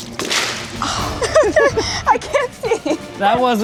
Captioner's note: laughs